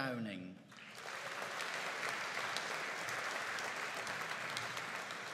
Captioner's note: audience applauding